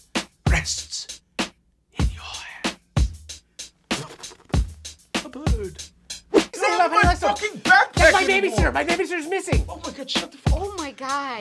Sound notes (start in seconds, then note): 9.9 laughing